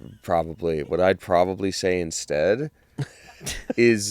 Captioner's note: laugh